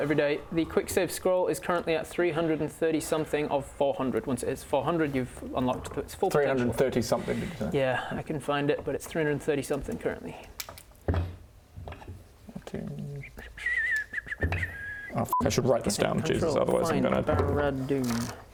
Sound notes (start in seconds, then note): 13.6 whistle of finding